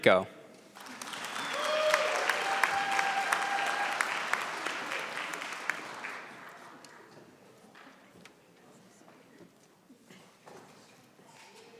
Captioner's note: applause